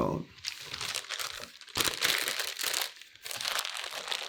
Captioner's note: evidence bag crinkles